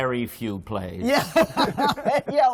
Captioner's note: laughter